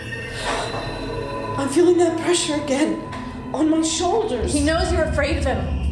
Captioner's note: ominous music; gasps